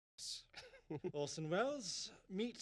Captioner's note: chuckles